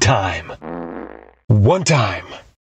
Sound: fart

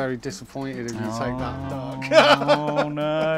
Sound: chuckles

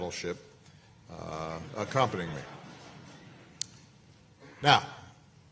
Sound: laughter

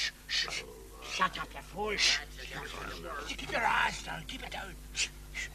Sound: Brigands shushing; Brigands shushing

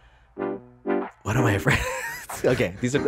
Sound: laughs

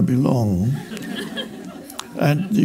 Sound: audience laughs

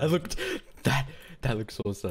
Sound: breating

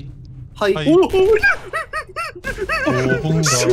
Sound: frightened voice

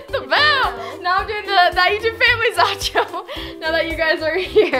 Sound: laughing drowns out words

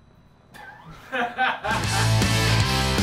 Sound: laughing; upbeat rock music

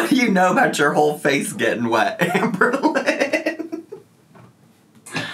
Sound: laughing

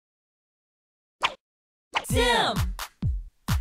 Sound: swooshes

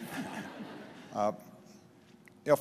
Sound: laughter

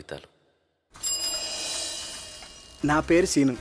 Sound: cycle bell rings

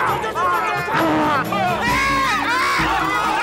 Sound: screams

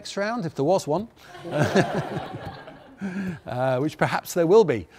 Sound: audience laughs

